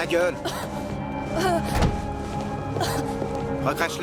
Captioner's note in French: La fille tousse et a des haut-le-cœur